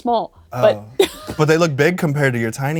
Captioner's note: laughs